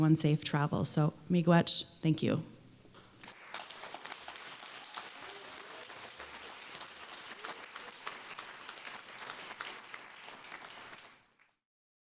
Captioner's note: applause